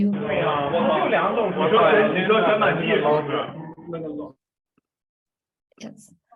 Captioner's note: multiple people chattering in the background